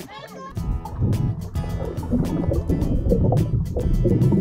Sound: water bubbling

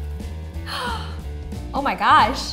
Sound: gasps

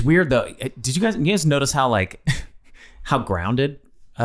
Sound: Glenn coughs

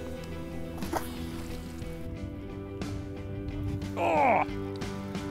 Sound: splashing

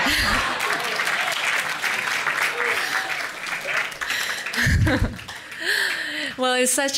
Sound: audience Laughs

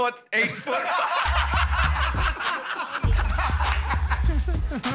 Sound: laughing

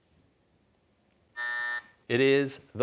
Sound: buzzer

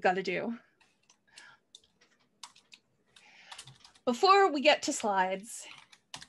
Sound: keyboard clicks

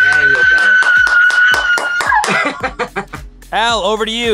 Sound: screaming

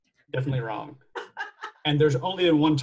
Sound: laughs

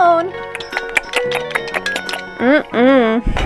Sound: chewing; giggles

